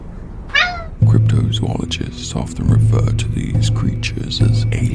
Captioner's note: meow